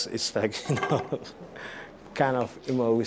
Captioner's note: laughs